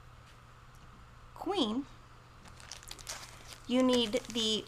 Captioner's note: plastic crinkling